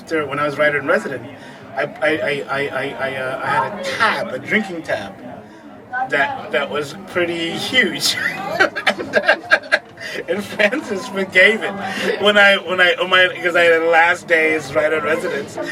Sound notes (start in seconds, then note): 8.0 laughs